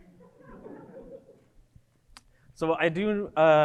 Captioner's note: audience laughing